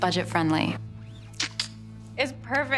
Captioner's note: clicks tongue